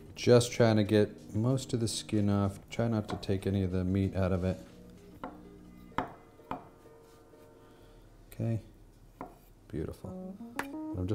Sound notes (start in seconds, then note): 6.2 knife chopping